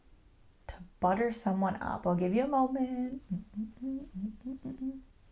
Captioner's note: hums